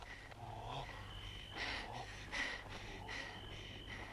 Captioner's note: Hundra shouts; Hundra panting